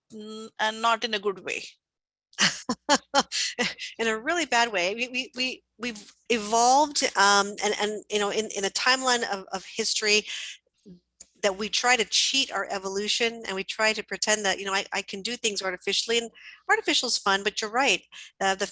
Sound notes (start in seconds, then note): 2.4 laughs